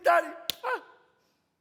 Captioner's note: slaps